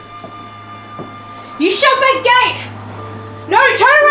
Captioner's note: shouting